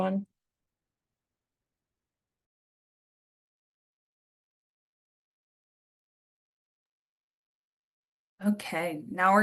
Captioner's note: silence